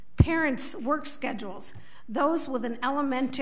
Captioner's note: none